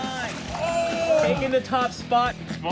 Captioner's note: crowd gasps